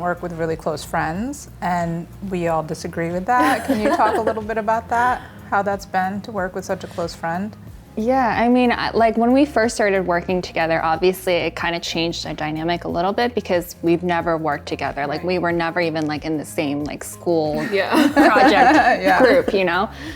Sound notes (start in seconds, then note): 3.4 laughs; 17.6 everyone laughs